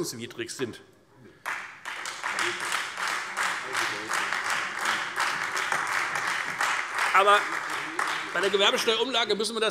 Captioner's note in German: Beifall Freie Demokraten und AfD